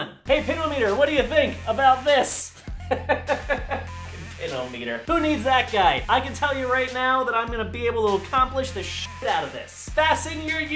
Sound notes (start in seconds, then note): 2.7 maniacal laughter